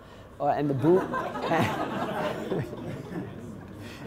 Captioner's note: laughing